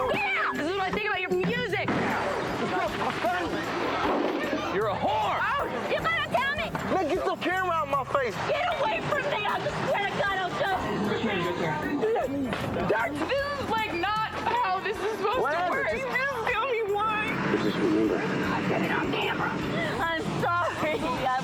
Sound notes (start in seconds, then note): 2.1 crashing; 3.9 yelling